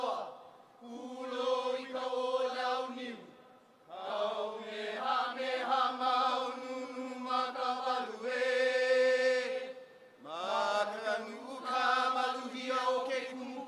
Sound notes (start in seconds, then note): none